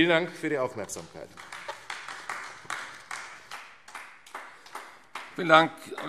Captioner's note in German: Beifall AfD